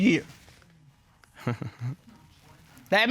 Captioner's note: chuckles